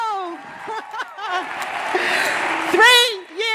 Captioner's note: laughing